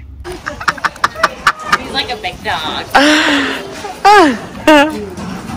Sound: laughing

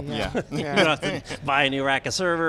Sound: all laughing

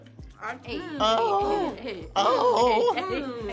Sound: all moaning

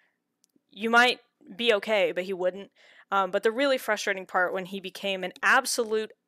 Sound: none

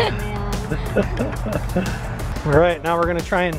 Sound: laughs

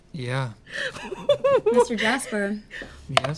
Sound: laughter

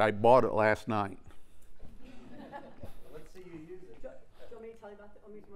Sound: laugh

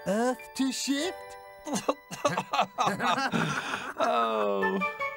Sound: Bob and Digger laugh

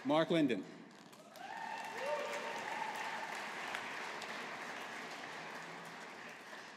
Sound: audience applauding

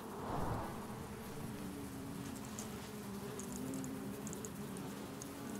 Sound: buzzing intensifies

